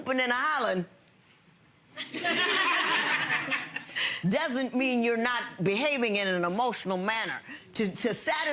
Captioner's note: audience laughing